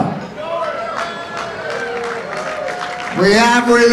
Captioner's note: audience applauds